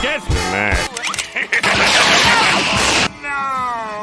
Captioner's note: Plankton Loads Up Laser Gun & Fires